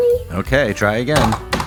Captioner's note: bonk!